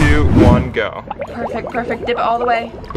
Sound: water bubbling

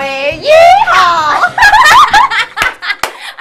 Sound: laughter

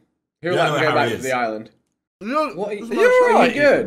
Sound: laughing

